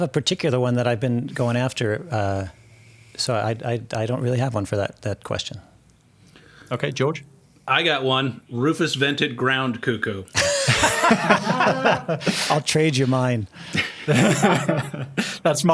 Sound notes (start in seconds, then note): 10.4 everyone laughing; 13.6 laughing